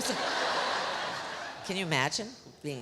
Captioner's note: audience laughs